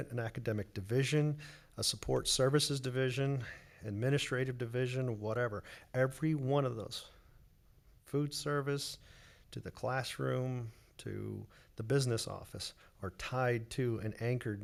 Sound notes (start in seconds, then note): none